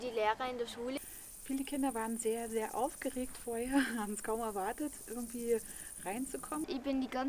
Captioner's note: laughs